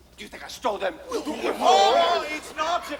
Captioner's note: noises of protest